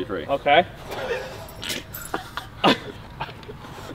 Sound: men snickering

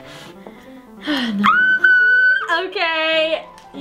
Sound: squeals

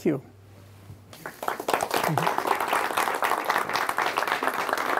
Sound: audience clapping

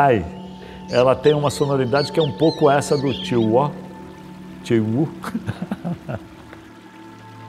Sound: laughs

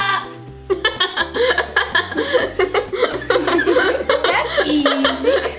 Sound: giggles

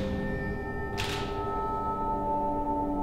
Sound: shutter clicks

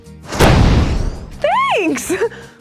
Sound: explosion

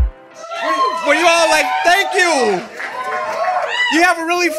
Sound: audience cheering

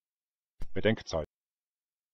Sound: fast Pronunciation

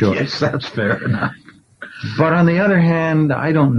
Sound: laughs

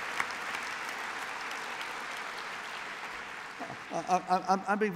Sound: applause

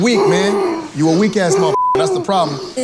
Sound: beeps

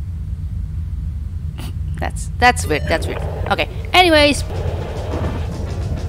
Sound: chuckles

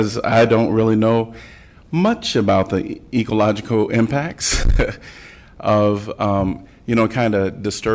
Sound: laughter

